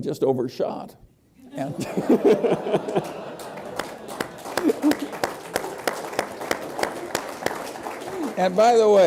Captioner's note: laughter